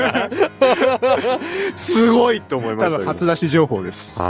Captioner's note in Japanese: 笑い